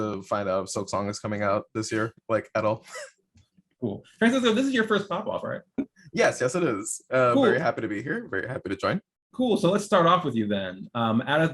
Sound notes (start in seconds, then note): 2.8 chuckles